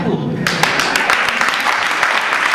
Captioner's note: audience claps